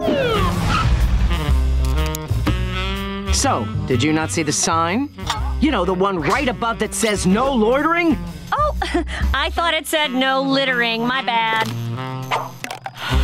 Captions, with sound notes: So did you not see the sign? You know, the one right above that says "No loitering". Oh, [chuckles] I thought it said no littering. My bad.